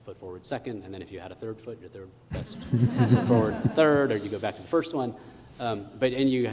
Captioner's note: laughter